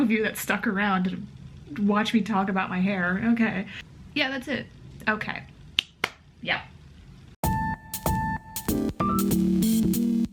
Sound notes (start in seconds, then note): 6.0 claps; 7.4 funky music